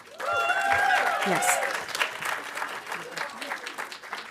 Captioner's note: audience applauding